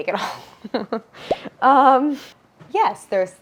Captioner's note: Claire laughs